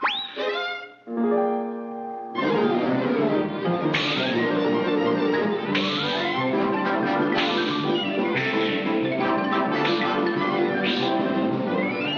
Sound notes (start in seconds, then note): 0.2 ear whooshes; 0.2 gentle music; 2.3 dramatic music; 3.6 Bugs and Elmer whooshing